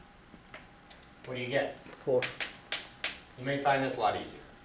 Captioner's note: voiceover